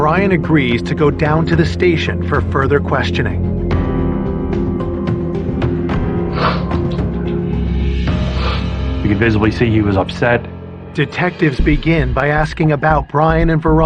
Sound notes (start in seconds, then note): 6.4 sobbingng